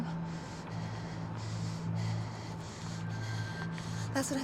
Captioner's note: breathing heavily